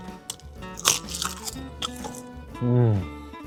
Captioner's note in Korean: 파삭